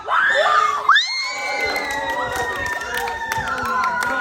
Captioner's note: crowd exclaims